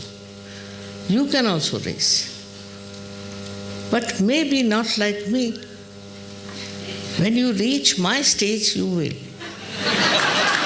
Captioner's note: applause and laughter